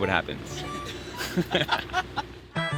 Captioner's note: laughs